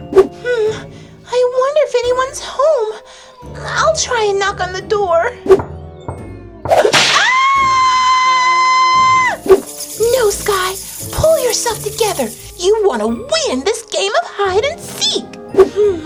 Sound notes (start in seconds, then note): 6.0 knocks; 7.1 screams